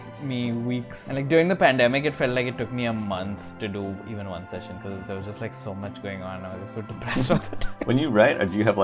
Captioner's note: laughs